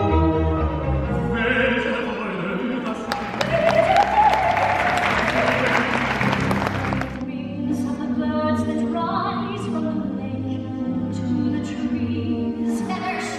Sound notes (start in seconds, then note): 3.0 audience applauds